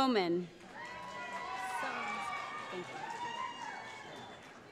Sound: cheering

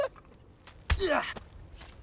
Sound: grunting

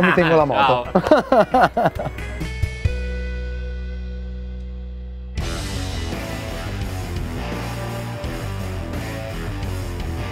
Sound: laughs

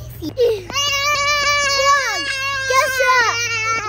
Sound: screaming

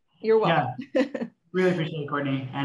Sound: laugh

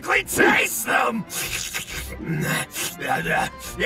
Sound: Goblin Slayer slurping and groaning; spirited folk music

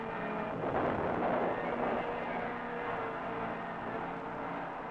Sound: explosion booming

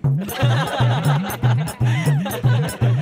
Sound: laughs

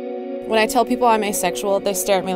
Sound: voiceover

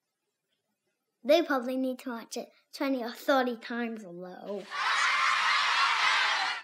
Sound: kids Laughing

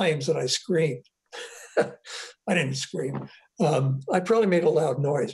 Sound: laughs

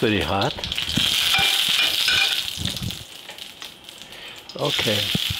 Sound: pan sizzles

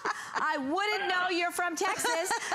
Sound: laughter

